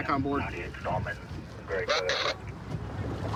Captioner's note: radio communication